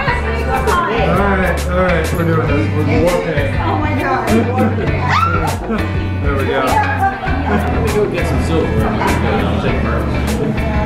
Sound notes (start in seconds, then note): 7.3 chuckling